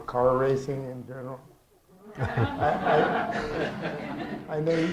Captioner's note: laughter